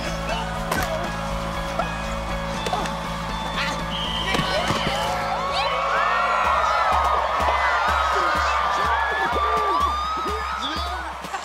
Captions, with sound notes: [whistle blowing] [cheering] Touchdown! Yeah! [chuckles]